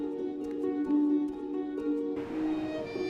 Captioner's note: none